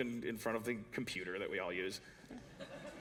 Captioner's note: laughter